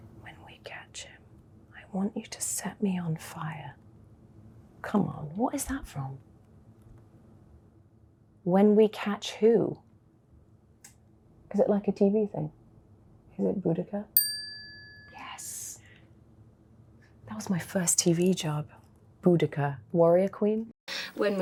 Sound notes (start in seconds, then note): 14.2 bell dinging